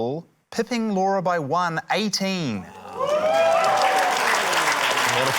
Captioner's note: cheering, applause